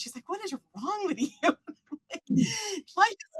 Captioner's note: laughs